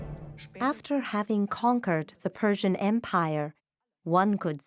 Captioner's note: in German